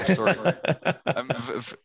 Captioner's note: laughter